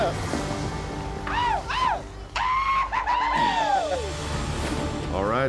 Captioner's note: cheering